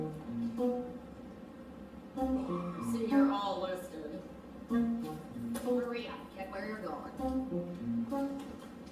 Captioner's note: MS. FLEMING, spoken